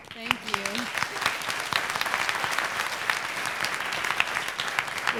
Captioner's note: applause